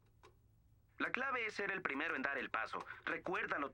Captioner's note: voiceover